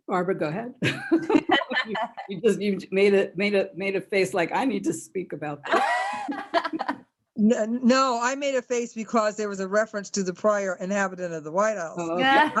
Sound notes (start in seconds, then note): 0.8 laughter; 5.7 laughs